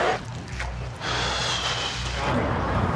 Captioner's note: sighs